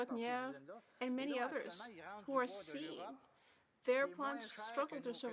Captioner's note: speaking French